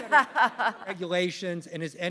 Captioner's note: laughter